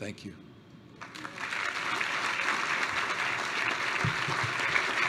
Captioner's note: applause